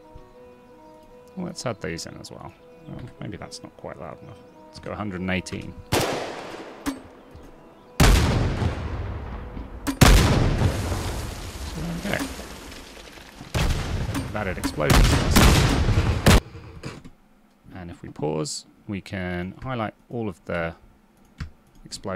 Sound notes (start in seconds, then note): 5.9 gunshot; 7.9 explosions